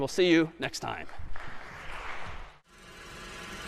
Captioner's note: applause